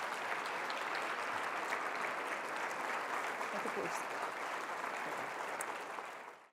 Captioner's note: applause